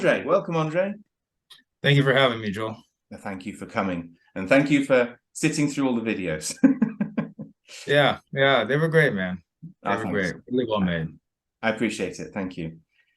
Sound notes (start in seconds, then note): 6.5 chuckles